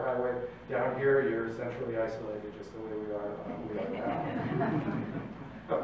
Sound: laughter

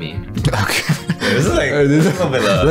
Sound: laughs

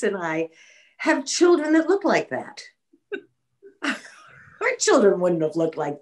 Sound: laughing

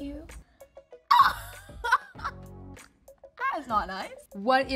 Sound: Ayo laughing

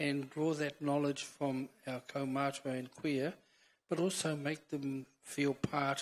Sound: foreign language

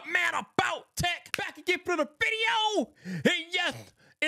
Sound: hands clapping

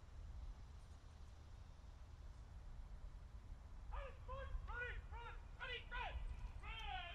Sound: soldiers continue shouting commands

